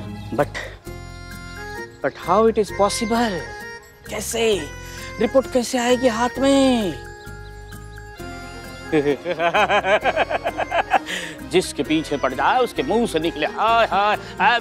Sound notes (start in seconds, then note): 8.4 laughing